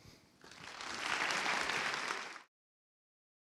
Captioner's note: applause